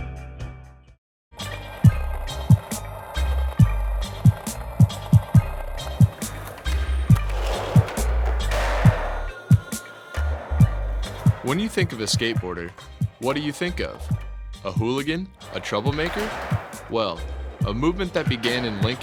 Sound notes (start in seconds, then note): 2.1 slow music; 3.4 sounds of skateboarders